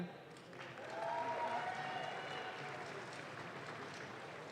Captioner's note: audience claps